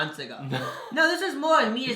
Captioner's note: laughs